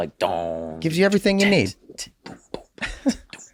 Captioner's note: Glenn imitates drumset clanging